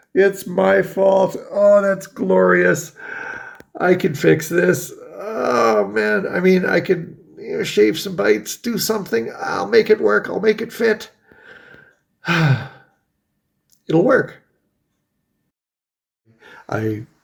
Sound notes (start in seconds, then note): 12.2 sighs